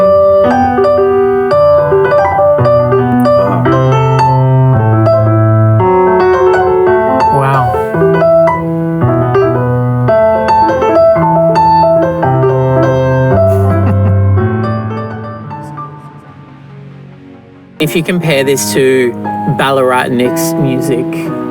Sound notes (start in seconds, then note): 0.1 classical music; 13.5 laughs; 17.8 upbeat music